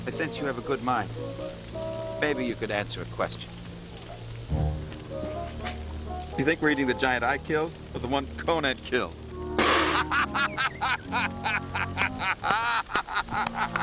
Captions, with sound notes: maybe you could answer a question. You think we're eating the giant I killed or the one Conan killed? - (spit take) - (laughing)